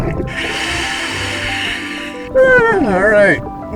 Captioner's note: regulator hissing